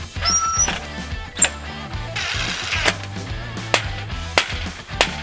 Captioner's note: mechanical grind; shrill squeak; loud grind; piercing smacks